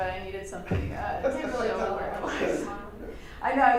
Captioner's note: laughter and crosstalk drown out speaker